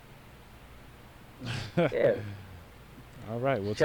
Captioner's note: Bobby laughs